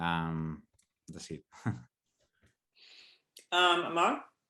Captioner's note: chuckles